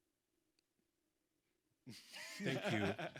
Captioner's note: people laughing